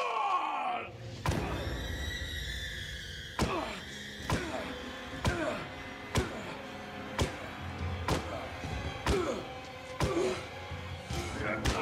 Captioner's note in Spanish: golpes muy fuertes, y exclamaciones al pegarle